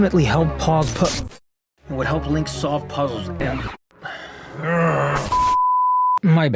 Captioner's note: angrily grunts